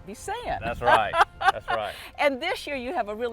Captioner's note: laughter